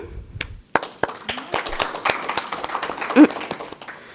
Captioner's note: applause